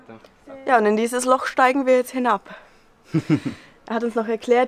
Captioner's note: laughs